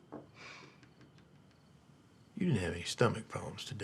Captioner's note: Tania sighs